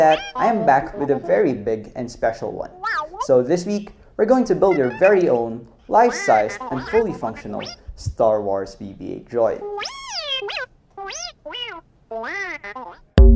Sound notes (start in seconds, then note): 9.7 BB-8 reacts